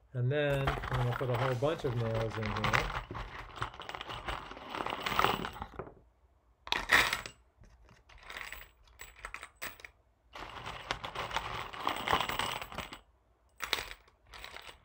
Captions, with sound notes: and then we'll put a whole bunch of nails in here, (nails rattling)